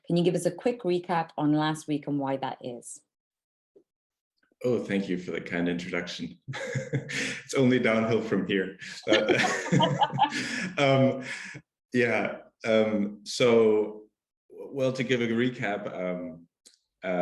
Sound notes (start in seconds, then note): 6.5 chuckling; 8.8 laughing